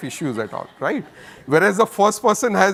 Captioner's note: audience laughs